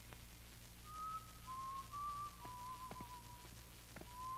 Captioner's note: whistles